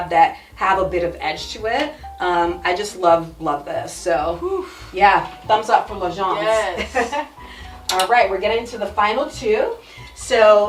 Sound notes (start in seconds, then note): 6.5 chuckles